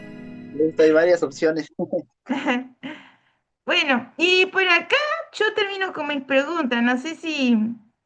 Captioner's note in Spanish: risas